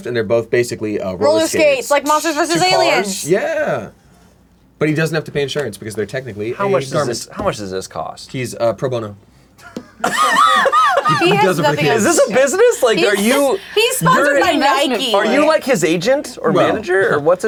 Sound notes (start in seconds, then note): 9.7 laughing